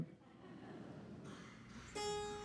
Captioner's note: audience laughing; gentle ensemble music